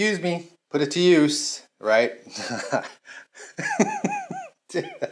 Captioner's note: laughs